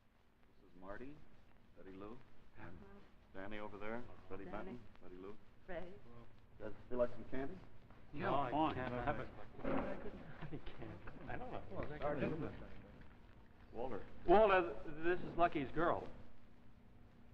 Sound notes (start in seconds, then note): 8.1 several voices; 9.0 murmuring